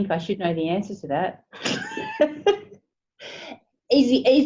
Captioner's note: laughing